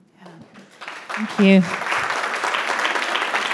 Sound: audience applauding

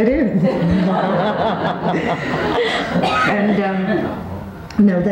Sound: all laughing

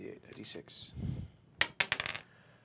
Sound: dice clacks

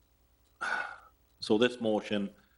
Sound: sighing

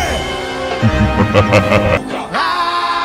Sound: Hotel Mario Bowser Laugh

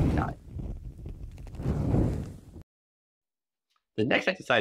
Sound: fire smoldering sound effect

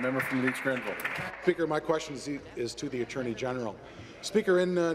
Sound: applause

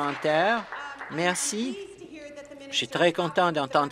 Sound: applause

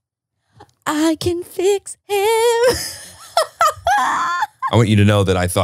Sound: laughs

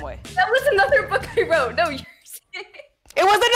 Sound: laughs

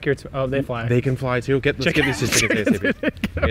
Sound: laughs

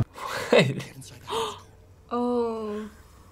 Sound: gasping

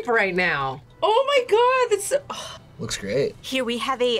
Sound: sighs

